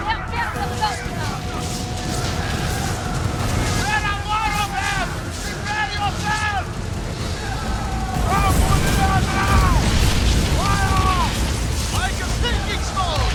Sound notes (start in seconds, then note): 1.4 characters yelling